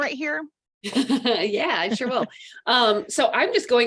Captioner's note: chuckles